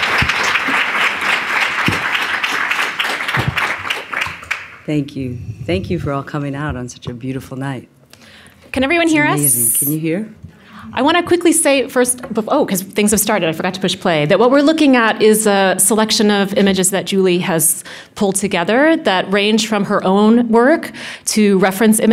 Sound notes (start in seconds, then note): 2.9 applause